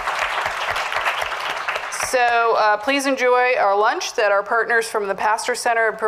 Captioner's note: applause